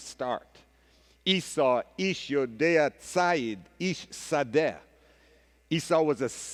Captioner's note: speaking hebrew